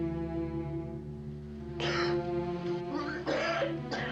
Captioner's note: len coughing